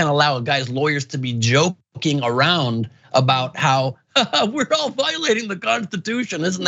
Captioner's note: laugh